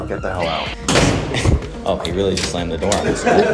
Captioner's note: door shuts